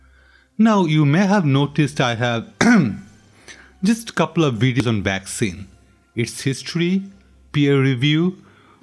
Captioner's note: cough cough